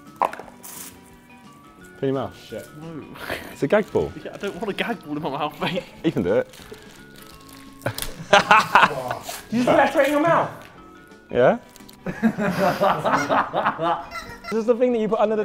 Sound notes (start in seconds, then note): 7.8 Josh laughing; 12.0 Sidemen laughing